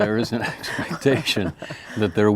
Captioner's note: laughing